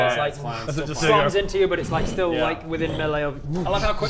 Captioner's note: fwoomp fwoomp